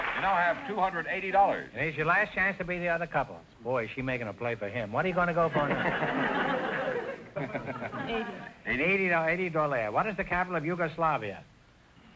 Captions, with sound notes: - You now have $280! - This is your last chance to beat the other couple. Boy is she making a play for him. What are you gonna go for now? (audience laughter) - 80. - 80. - $80, what is the capital of Yugoslavia?